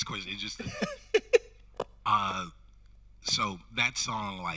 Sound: host laughing

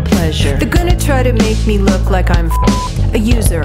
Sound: beep

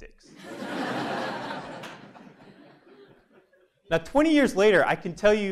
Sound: laugh

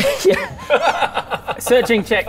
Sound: even more disturbed laughter

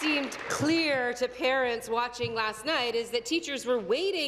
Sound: applause

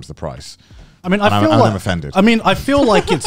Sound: laughing

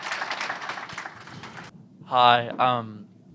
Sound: applause

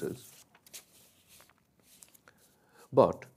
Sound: paper scratches

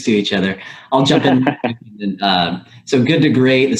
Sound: audio warps

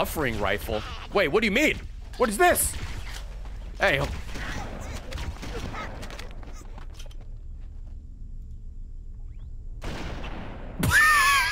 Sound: laughs

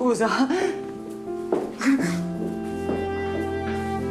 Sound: cry

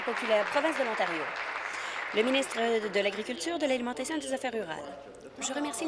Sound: applause

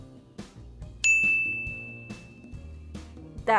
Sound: bell rings

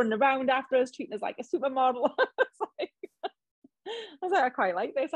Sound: laughs

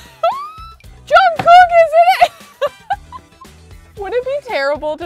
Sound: laughs

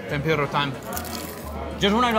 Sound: crunching

